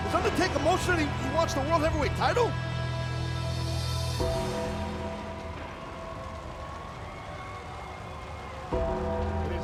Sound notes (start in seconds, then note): 4.3 bell tolls